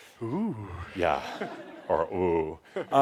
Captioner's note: some chuckles